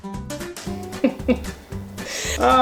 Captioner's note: laughter